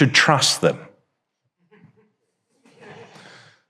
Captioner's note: audience chuckles